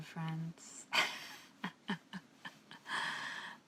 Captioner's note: laughs